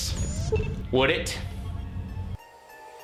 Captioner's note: computer beeps